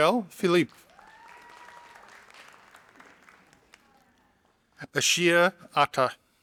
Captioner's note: audience applauding